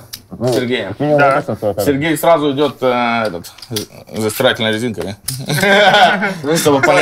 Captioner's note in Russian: смех